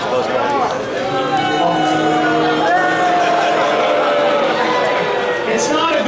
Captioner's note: crowd: booing